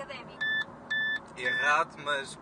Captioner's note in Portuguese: começa a apitar